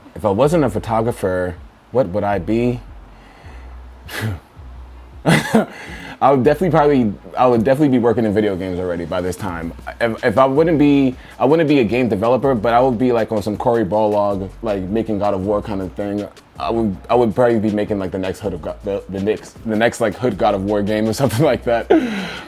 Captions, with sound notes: If I wasn't a photographer, what would I be? [sighs] [laughs] I would definitely, probably--I would definitely be working in video games already by this time. If I wouldn't be--I wouldn't be a game developer, but I would be like on some Cory Barlog like, making God of War kind of thing. I would probably be making like, the next, like, hood God of War game or something like that.